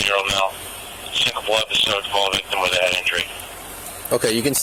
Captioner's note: radio chatter